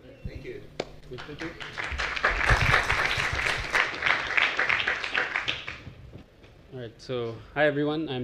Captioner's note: applause